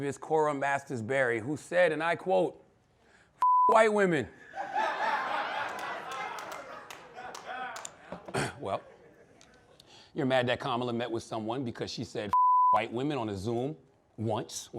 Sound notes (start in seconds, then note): 4.4 laughter